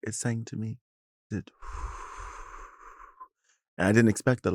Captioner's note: blows softly